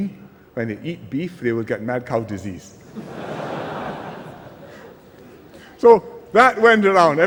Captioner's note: laughter